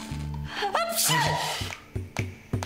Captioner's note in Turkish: Şirin hapşırdı